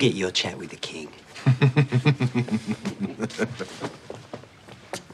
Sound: laughs

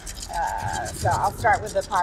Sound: dice rattling

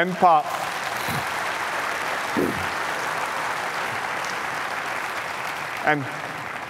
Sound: applause

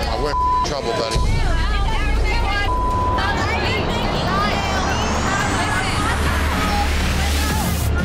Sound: shouting and swearing

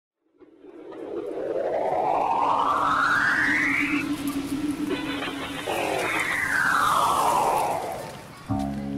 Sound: rising and falling sound effect

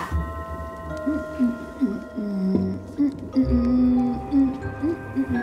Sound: humming

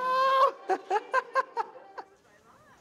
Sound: laughs

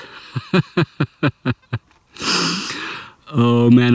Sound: laughs

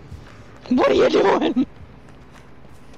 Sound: laughs

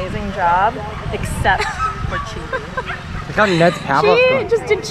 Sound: laughter

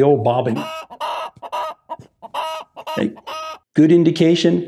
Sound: chicken clucking

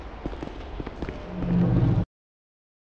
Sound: faint metallic creaking

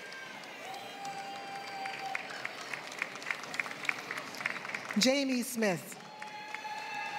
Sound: applause

